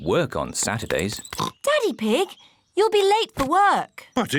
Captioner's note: oinks